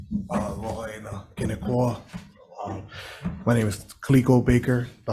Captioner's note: speaking Hawaiian